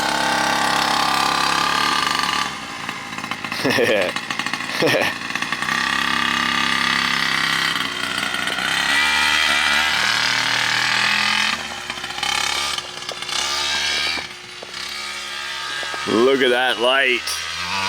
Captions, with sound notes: (motor revving) (chuckles) (motor revving) Look at that light.